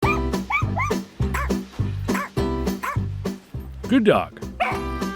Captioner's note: dogs barking; cheerful music